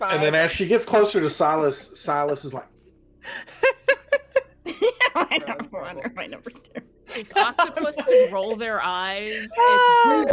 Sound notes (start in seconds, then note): 3.3 laughs; 5.3 Hope laughs